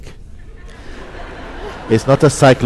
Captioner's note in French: rire